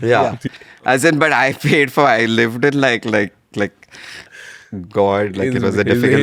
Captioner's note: laughs